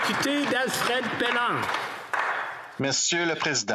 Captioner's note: some Applause